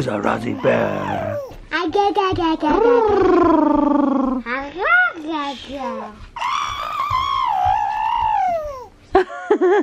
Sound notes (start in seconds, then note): 2.1 making baby noises; 6.3 making cooing noises